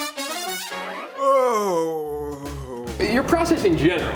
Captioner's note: groans